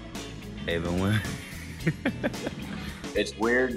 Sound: chuckle

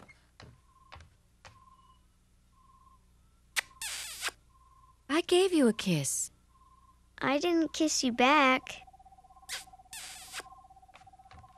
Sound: kissing noise

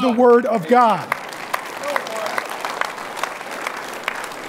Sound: audience applauding

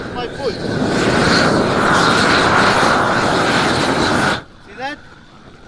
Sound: air whooshes against plastic

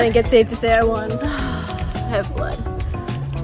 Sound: sighs

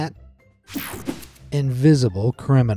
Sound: image whooshing

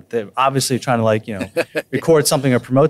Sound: laughs

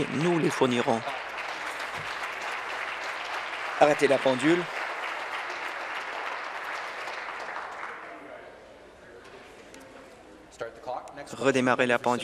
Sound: applause

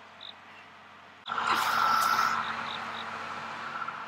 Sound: car sounds

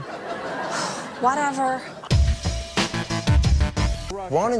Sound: sighs

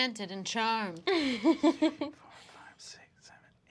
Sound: laughs

